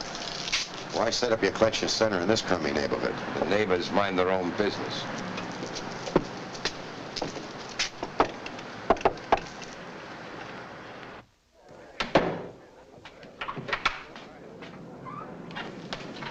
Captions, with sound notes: - Why set up your collection center in this crummy neighborhood? - The neighbors mind their own business. (knocks on door) (men chattering nearby)